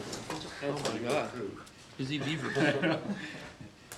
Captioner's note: laughing